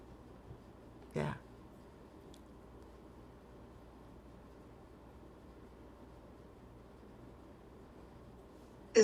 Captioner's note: pauses 8 seconds